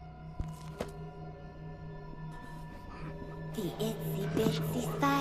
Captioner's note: book thuds